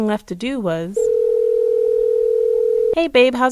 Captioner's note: phone ringing